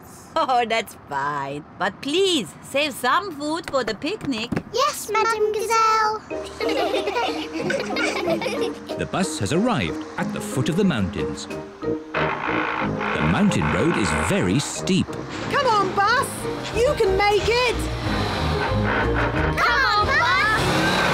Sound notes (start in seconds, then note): 6.4 all giggle